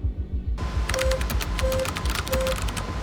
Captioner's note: keyboard clacking